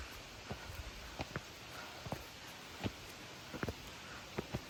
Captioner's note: heaving breathing